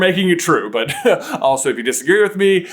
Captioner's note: chuckles